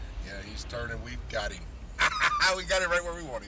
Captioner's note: laughs